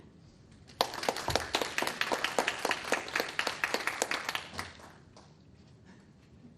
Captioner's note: attendees applauding